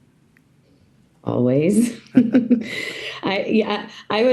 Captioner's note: laughs